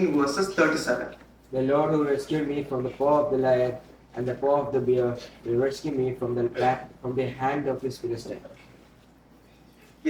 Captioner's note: reading verse in English